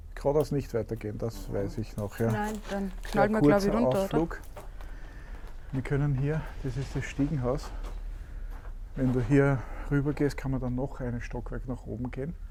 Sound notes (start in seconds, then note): none